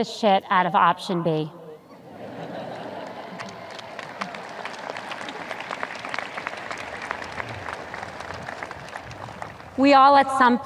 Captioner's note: audience cheers